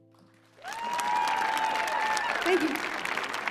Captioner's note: audience cheering